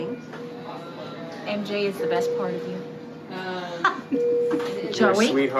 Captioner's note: laughs